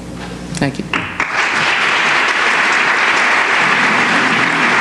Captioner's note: applause